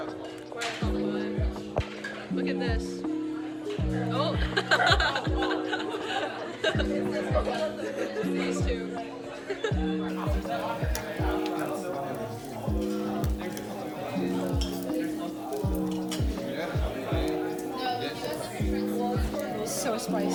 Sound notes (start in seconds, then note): 4.4 laughs; 9.7 laughs